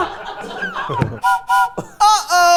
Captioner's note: train whistle blowing